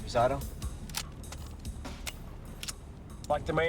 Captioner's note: gun clicking